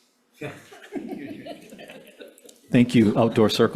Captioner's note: chuckling